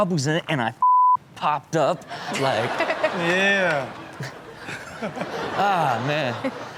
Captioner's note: beep